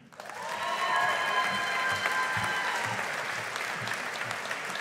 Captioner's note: audience applauding